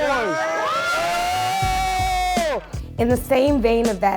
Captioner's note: screams